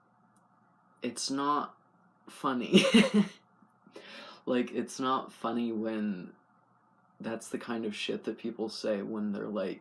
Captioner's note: laugh